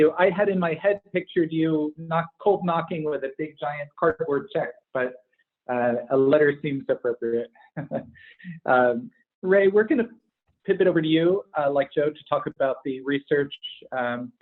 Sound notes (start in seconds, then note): 7.6 chuckles